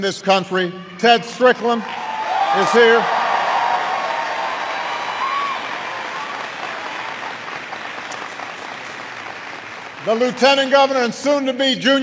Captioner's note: applause